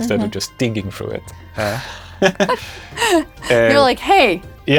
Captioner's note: laughs